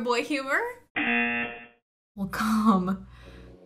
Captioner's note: buzzer; voice-over